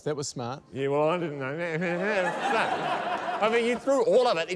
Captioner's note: laughter